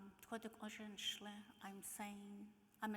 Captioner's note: speaking in foreign language